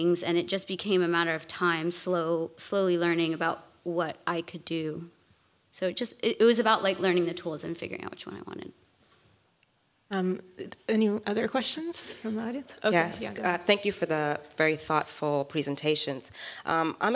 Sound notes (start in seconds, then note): none